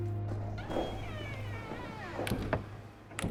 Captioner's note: footsteps; doors creaking, closing